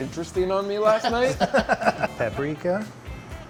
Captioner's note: laughter